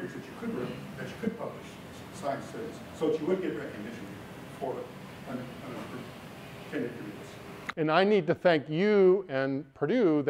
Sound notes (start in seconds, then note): 5.5 speaking quietly without mic